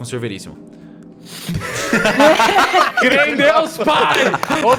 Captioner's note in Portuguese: Todos riem